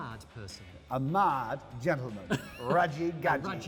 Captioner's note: laughing